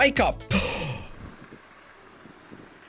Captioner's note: gasp